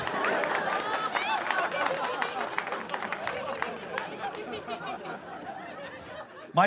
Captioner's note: insane laughter, applause